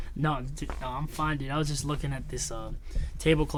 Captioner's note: scoffs